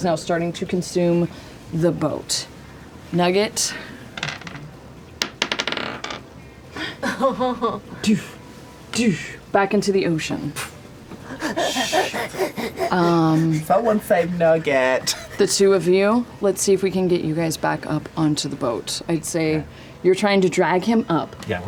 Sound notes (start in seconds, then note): 5.2 die clatters; 6.8 laughs; 11.2 heavy breathing